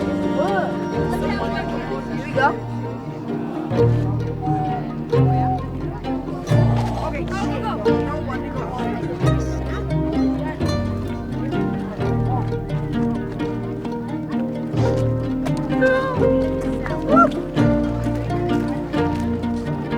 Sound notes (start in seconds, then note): 1.8 students chattering; 7.5 cheerful music; 14.6 students chattering